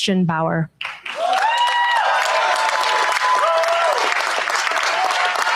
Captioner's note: cheers, applause